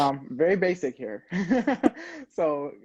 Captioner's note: laughing